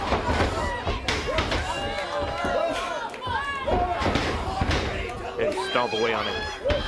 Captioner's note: crowd chatter